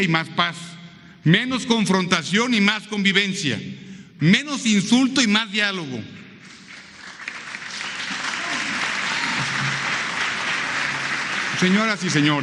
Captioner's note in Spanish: aplausos